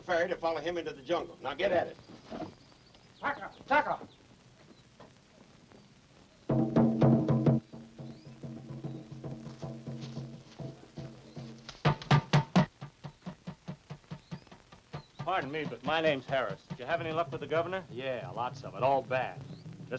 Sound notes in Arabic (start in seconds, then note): 3.7 قرع الطبول; 3.7 يصرخ